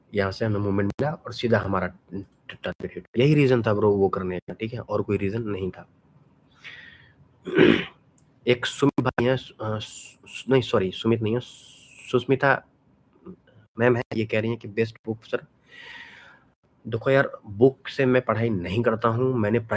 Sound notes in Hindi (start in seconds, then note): 7.4 गला साफ़ करने की आवाज़; 7.4 खांसने की आवाज़